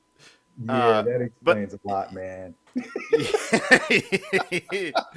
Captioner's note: laughing